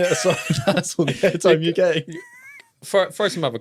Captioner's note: both laughs